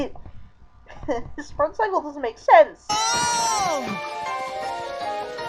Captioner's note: chuckle